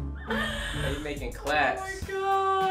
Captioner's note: laughing